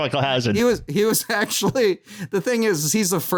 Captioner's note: laughing